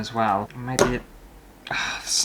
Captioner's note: snap!